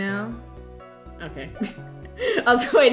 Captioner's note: laughs